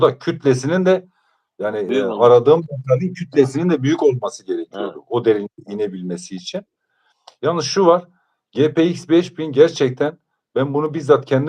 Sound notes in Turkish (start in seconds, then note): none